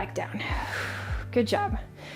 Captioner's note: exhaling